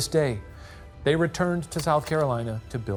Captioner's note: projector clicking